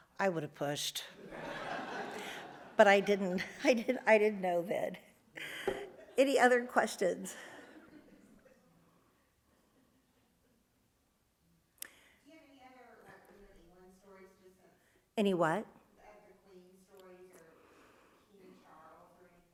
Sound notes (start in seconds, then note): 1.2 audience laughs; 7.8 audience murmurs